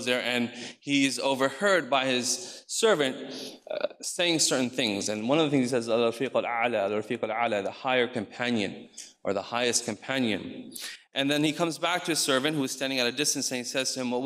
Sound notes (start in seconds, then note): 6.1 speaks in foreign language